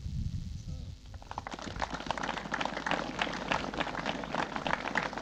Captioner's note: applause